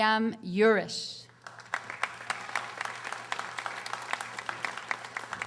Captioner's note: audience applauding